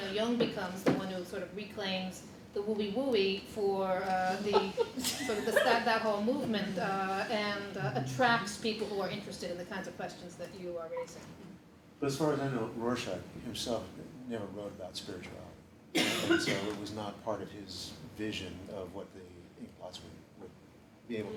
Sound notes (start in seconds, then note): 4.3 laughter